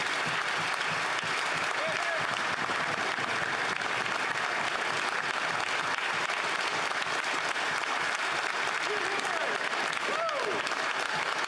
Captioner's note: applause